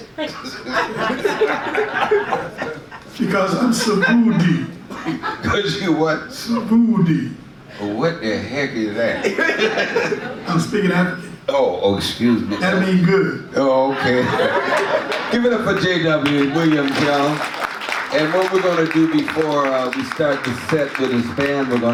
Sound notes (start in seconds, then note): 0.0 audience laughs; 3.7 speaks in foreign language; 6.4 speaks in foreign language; 13.6 audience laughs; 15.7 audience claps